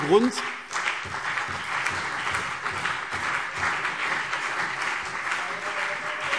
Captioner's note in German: Beifall CDU und BÜNDNIS 90/DIE GRÜNEN